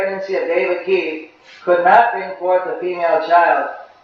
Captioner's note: repeating translation